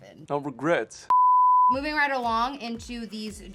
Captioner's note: beep